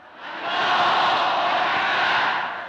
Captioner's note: crowd chanting slogan